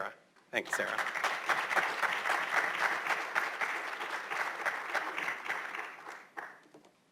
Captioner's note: applause